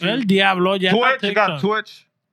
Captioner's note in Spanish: Hablando en idioma extranjero